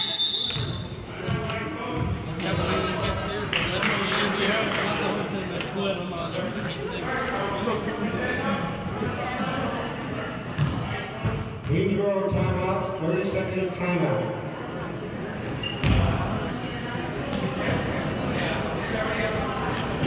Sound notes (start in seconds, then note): 0.0 whistle blows; 3.5 clapping; 4.1 audience chattering